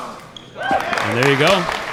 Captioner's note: applause